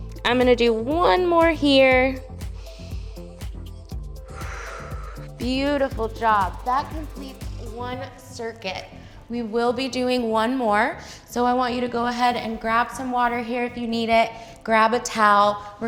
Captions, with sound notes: I'm gonna do one more here. (inhales) (exhales) Beautiful job. That completes one circuit. We will be doing one more. So I want you to go ahead and grab some water here if you need it, grab a towel.